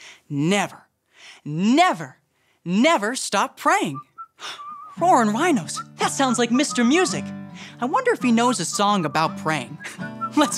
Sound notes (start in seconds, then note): 4.3 gasps